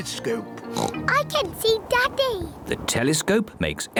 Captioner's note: oinks